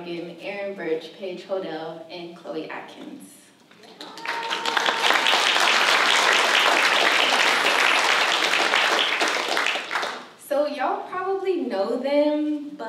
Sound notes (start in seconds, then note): 3.8 applause